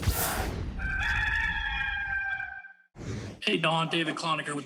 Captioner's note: air whooshing; cock crowing